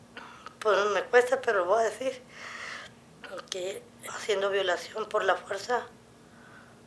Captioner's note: woman speaking Spanish